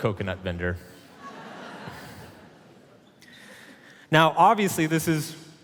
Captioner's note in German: Publikum lacht